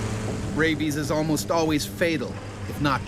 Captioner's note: voiceover